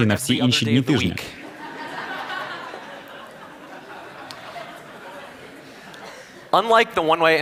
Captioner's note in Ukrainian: Сміх